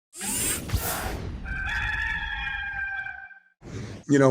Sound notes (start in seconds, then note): 0.2 graphics swoosh; 1.4 cock crows